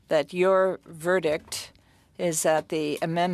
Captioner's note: speaking French